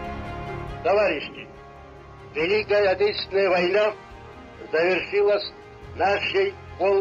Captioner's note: Stalin speaking in foreign language